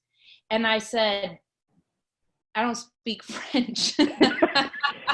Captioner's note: laughs